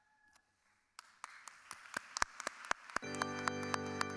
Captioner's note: clapping; soft music